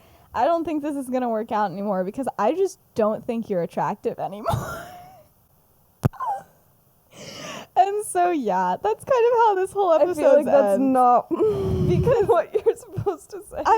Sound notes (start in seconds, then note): 5.8 laughs